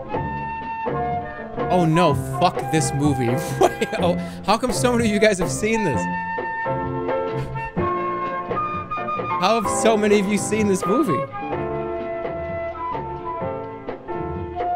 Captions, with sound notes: "Oh no, fuck this movie." [laughs] Wait! How come so many of you guys have seen this? How have so many of you seen this movie?